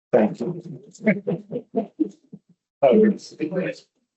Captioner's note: distorted audio